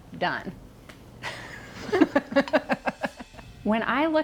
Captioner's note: laughs